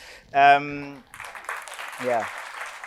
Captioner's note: audience applauds